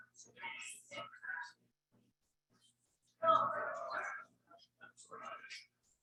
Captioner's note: people chattering indistinctly continues